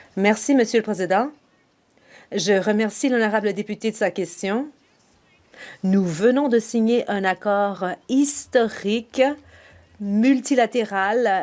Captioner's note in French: voix de l'interprète